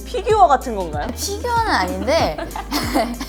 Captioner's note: laugh